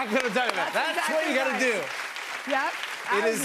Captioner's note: applause